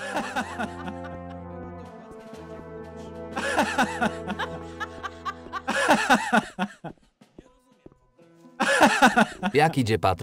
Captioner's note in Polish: śmiech